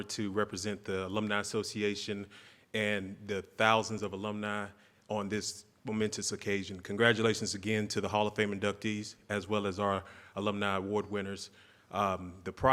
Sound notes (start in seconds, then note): none